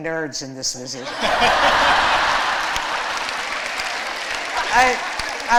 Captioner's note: laughter